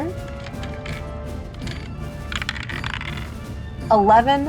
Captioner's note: dice clinks